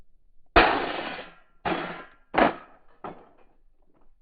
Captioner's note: rifles clatters